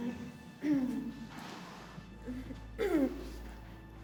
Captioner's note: clears throat